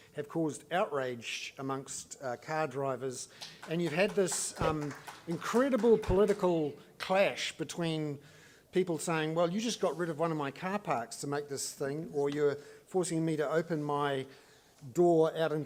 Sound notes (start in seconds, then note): 3.3 applause